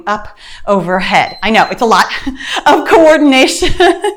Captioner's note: timer beeps